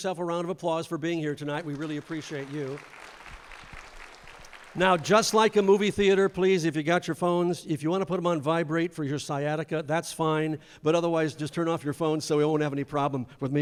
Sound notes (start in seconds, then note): 1.5 applause